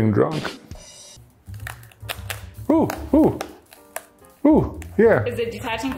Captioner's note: glue cracks